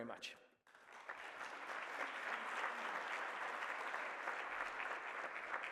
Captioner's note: applause